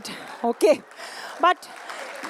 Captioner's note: applause